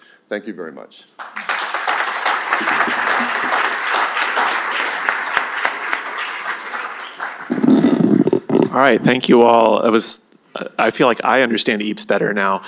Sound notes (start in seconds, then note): 1.1 applause